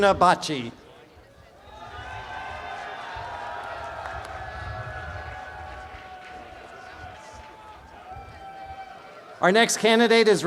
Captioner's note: applause and cheering